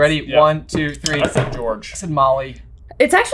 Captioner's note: boards clack